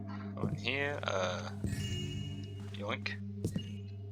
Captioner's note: joyous chime